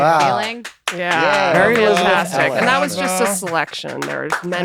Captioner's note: applause